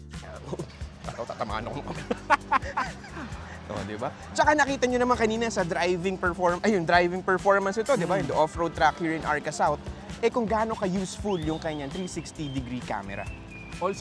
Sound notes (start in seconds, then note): 1.8 laughs